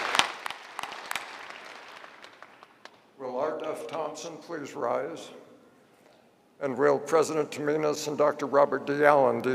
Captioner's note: applause